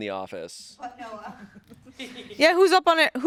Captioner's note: crew laughing